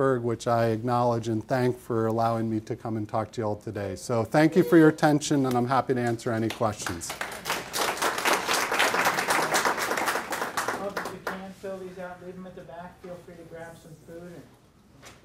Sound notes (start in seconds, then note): 6.4 applauding